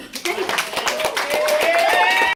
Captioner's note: clapping